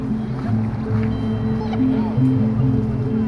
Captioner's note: indistinct chatter